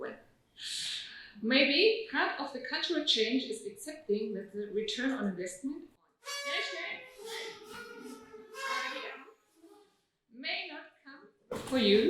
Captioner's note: audience toots